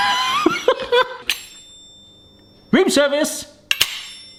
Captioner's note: wheel rings